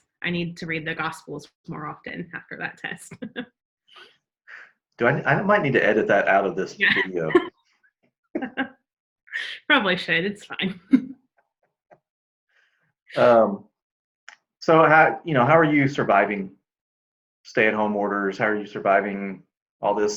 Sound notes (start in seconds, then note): 8.4 laughs